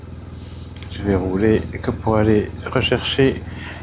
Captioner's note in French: grognement